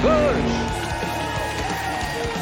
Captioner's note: cheering